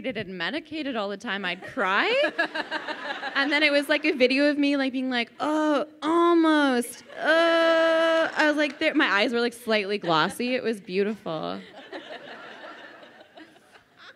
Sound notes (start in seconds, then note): 2.1 crowd laughing; 6.5 groans; 11.6 crowd laughing